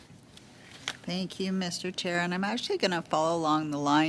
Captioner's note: speaking French